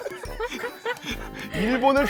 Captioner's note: heeheehee…